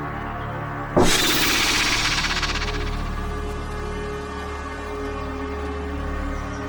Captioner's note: snake hisses; snake rattles